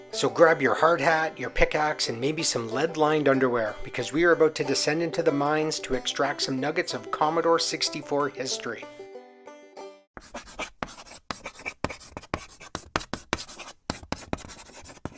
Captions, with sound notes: So grab your hard hat, your pick axe, and maybe some lead-lined underwear, because we are about to descend into the mines to extract some nuggets of Commodore 64 history. [sounds of chalk writing on a blackboard]